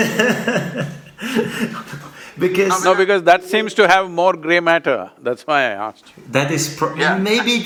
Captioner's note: laughs